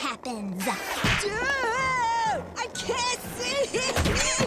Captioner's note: splat